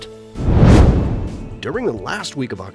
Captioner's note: meteor swishes